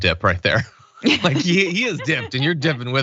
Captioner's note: laugh